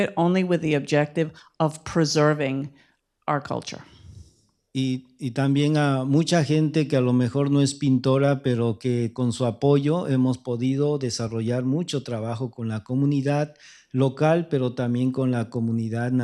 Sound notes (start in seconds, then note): 5.5 speaking spanish